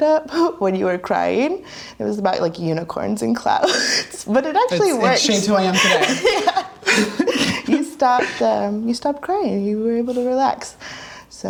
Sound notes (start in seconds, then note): 7.2 laughing